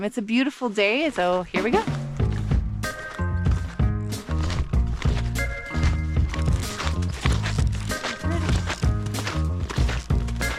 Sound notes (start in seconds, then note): 2.3 upbeat music; 4.7 footsteps crunching